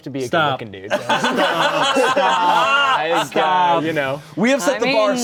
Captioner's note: everyone laughing